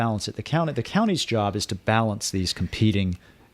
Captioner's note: Hablando ingl\s